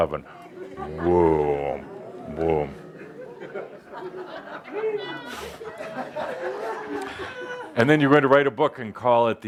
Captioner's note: audience responds with oohs and ahhs and laughter